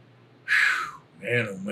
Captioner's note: exhaling sharply